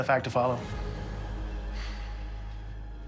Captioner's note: sighs